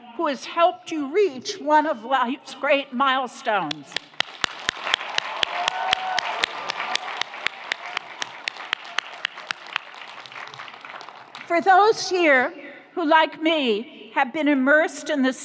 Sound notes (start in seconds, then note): 3.9 audience applauds; 4.4 audience cheers